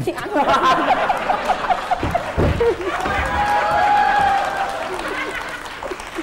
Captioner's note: laughing and applause